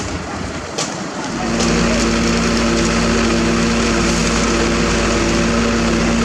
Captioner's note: truck Revs